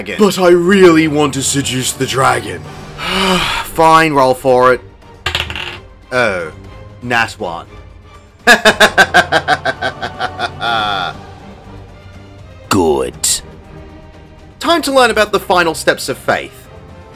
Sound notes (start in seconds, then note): 3.0 sigh; 5.2 dice rolling on table; 8.5 laughs